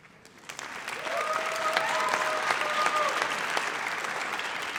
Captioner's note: audience applauds